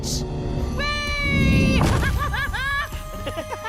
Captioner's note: Louie laughing; laughs